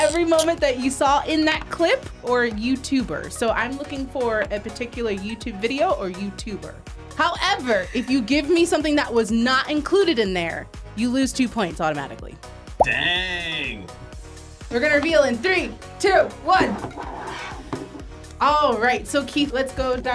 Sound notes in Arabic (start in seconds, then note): 13.0 موسيقى مبهجة; 16.6 الألواح تنزلق على الطاولة